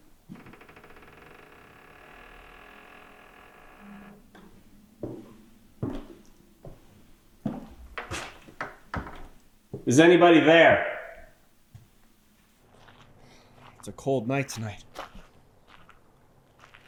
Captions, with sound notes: (wood creaking) (footsteps tapping) Is anybody there? It's a cold night tonight.